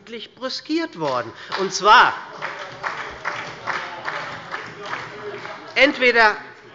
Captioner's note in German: Beifall bei der SPD